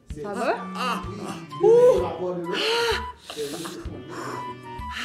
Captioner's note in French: Gémissements de douleurs